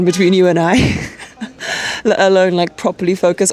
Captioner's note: laughs